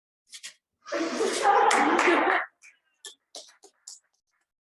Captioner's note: laughter and applause